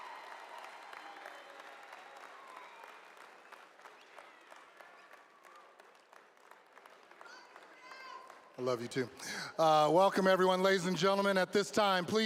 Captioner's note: applause